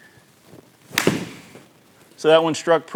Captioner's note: ball cracking